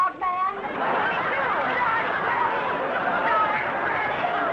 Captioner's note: audience laughing